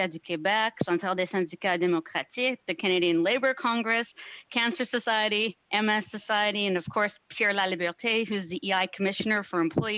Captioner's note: speaking French